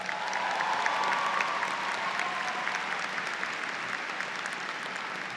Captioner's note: audience cheers